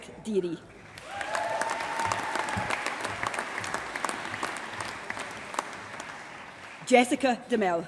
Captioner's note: applause